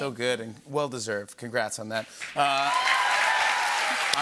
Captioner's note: cheers and applause